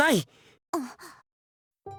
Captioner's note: gasp